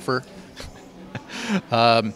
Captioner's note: laughs